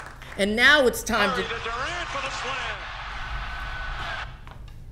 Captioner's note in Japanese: 拍手; 携帯：バスケの中継の音